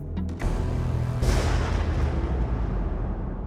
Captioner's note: thunder rumbles